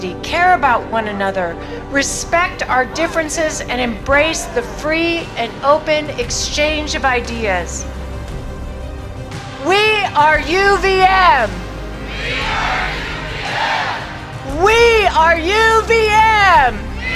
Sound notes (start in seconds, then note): 10.4 crowd Chanting